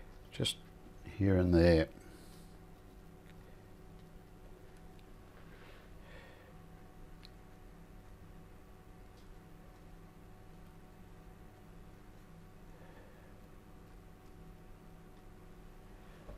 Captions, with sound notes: Just here and there. [silence]